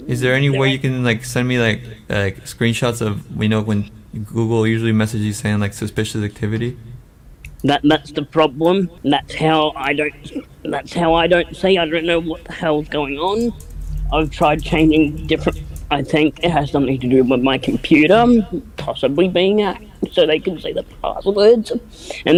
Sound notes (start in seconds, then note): 9.0 strains voice; 19.8 chokes up